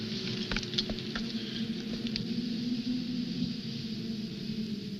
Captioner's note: wind howling